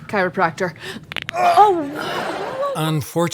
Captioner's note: bone cracks